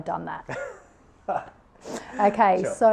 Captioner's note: chuckles